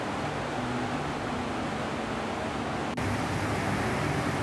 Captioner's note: steamer rumbling; loud rain on the roof